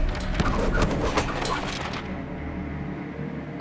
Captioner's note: wind blows